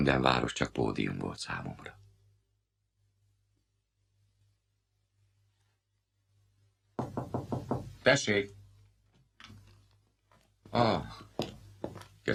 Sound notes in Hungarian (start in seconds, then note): 3.7 csend; 6.9 halk kopogás